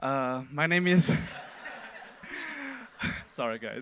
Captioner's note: audience laughing